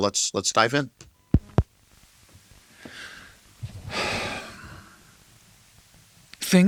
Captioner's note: tape click